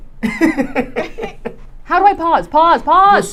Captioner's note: laughing